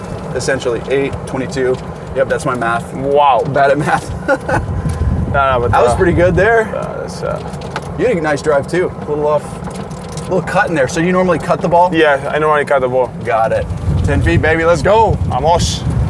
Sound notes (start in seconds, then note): 3.6 laughs